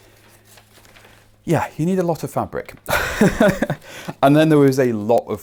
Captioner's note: chuckling